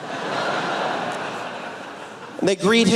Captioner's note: laughter